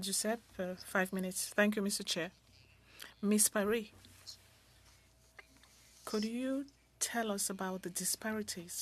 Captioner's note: speaking French